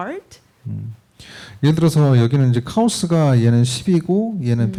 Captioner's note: speaking korean